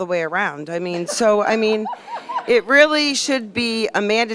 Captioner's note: laughter